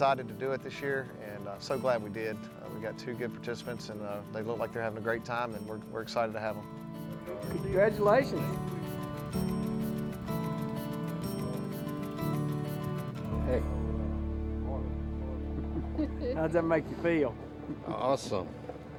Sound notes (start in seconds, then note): 9.9 country music; 15.8 laughs